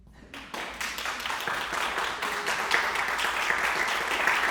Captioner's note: audience applauding